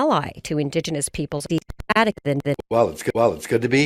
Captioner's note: audio skipping